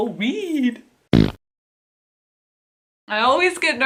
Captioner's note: fart noise